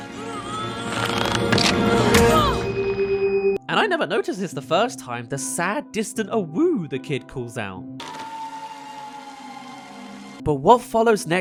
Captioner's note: crashes; awoo!